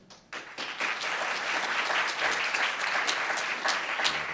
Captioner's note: applauds